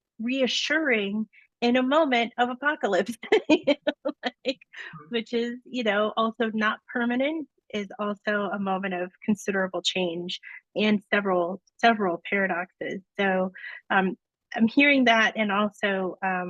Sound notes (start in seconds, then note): 3.1 laugh